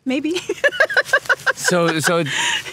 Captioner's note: laughing